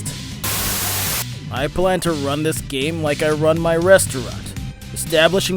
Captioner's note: Static